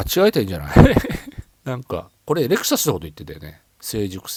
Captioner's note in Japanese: 笑い